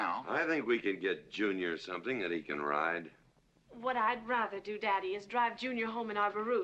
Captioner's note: none